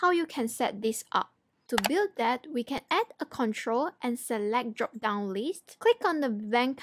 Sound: click

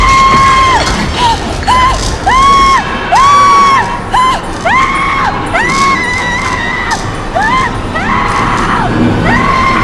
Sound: screaming

